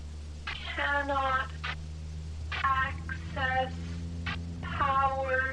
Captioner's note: woman speaking slowly